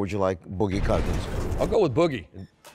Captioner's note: slam